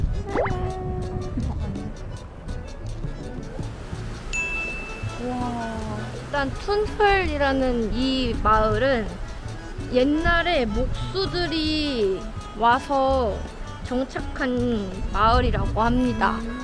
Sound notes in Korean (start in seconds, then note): 4.5 시원한 강물 소리